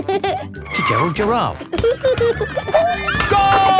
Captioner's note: giggling and squeaking; laughing; laughter